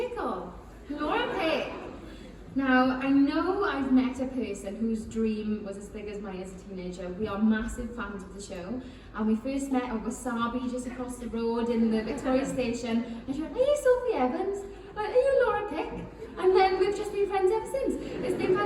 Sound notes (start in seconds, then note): 10.4 laughing; 18.0 chuckles